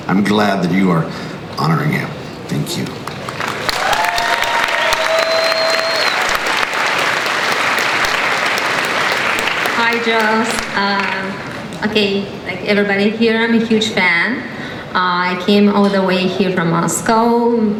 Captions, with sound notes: I'm glad that you are honoring him, thank you. (crowd cheers and applauds) - [Voiceover] Hi, Joss. Like everybody here, I'm a huge fan. I came all the way here from Moscow.